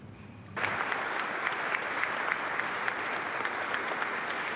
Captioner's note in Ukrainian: оплески